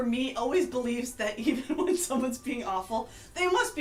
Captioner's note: laughs